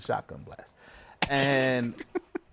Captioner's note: laughs